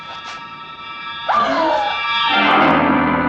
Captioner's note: gasps